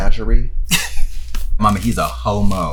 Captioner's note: laughs